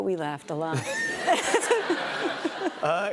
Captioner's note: laughter